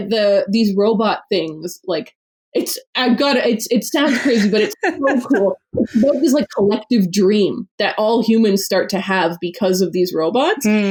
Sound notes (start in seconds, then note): 4.0 laughs